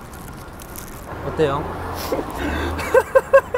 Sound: holding back laughter

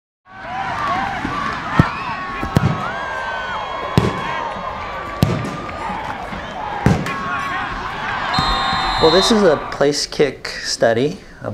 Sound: crowd noise, sound of a football being kicked

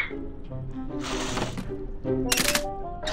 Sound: clicking

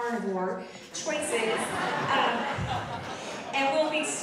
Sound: audience laughing

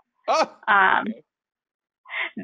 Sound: laughing

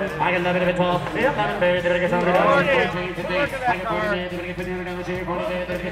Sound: auctioneer drawling

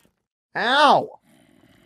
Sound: skeleton groaning

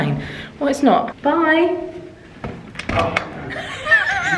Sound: laughs

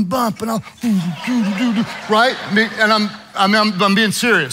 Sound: humming

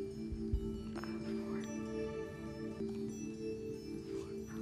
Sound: whispering

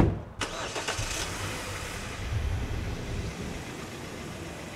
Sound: car engine starts

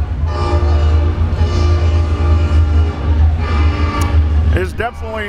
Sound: train whistles

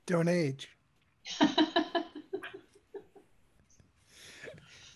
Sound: laughter

